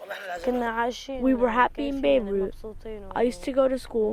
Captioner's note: through translator